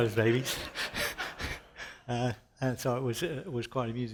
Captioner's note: shared laughter